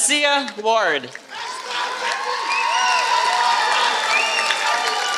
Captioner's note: applause